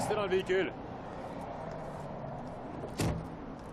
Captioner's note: car door opening